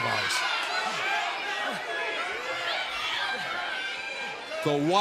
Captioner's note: crowd cheering